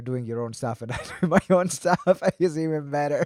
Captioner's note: laughs